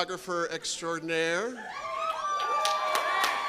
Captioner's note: applause